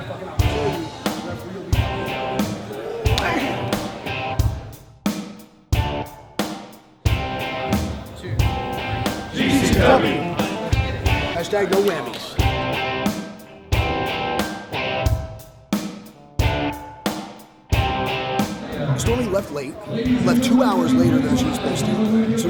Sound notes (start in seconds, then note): 0.1 intense music playing; 7.0 indistinct chattering